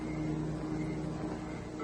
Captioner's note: beeping